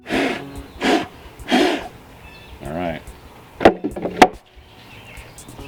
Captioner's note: blows strongly